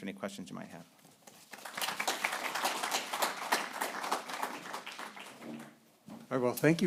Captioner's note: applause